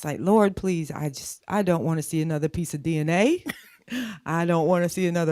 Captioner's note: laughs